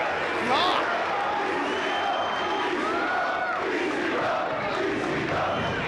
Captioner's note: crowd chants "ECW"